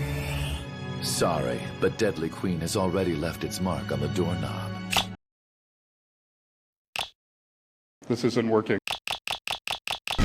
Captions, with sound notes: Sorry, but deadly queen has already left its mark on the doorknob [click] [click] This isn't working... [clicking intensifies]